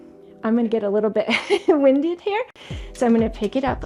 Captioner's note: laughs